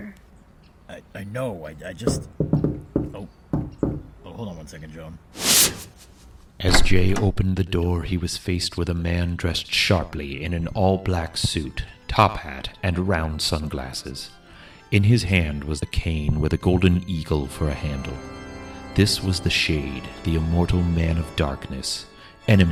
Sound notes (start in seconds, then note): 2.0 knock on the door; 5.4 super speed wooshing